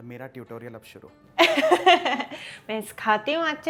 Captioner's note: chuckles